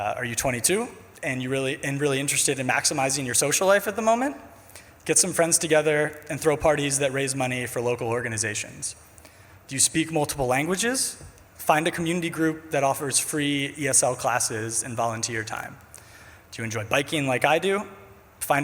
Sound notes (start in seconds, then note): none